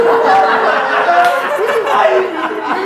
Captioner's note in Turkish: gülüşmeler